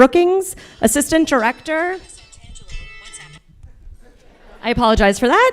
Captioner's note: phone rings; audience laughter